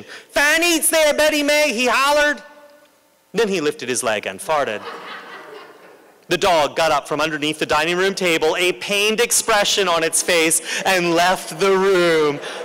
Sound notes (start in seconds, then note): 4.7 laughter